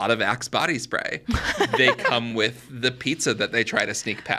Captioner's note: laughs